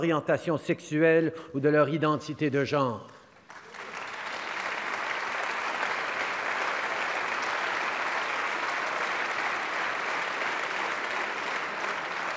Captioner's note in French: Applaudissements